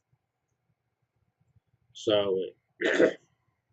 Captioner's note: cough